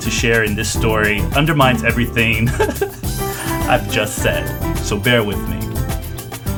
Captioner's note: laughs; laughs